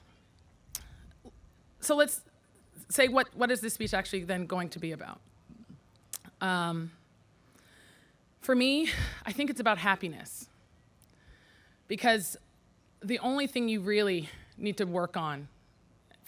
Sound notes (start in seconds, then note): none